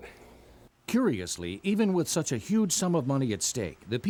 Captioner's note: voiceover